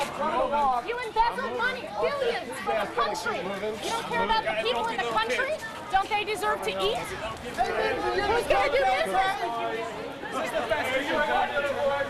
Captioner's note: chatter